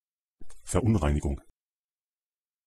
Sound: fast Pronunciation

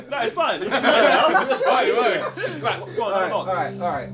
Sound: all laughing

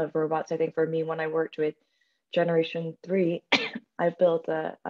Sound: coughing

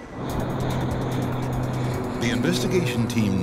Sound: plane engine roars

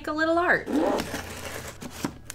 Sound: box noises

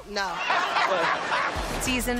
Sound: laughs

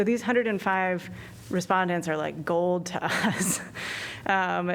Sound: laughter

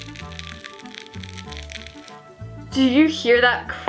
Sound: slime crunching

